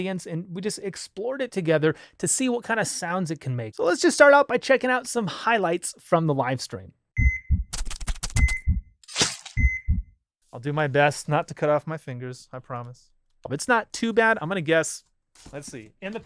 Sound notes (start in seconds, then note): 7.2 beeping